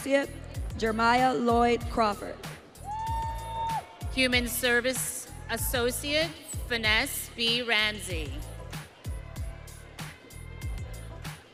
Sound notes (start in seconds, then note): 2.8 audience cheering